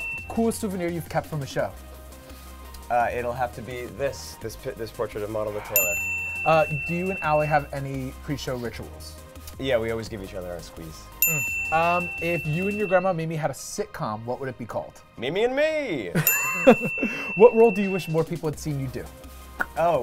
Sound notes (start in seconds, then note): 0.0 dinging; 5.7 dinging; 11.2 dinging; 16.2 laughing; 16.2 dinging